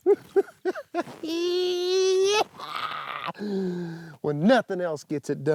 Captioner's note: laughs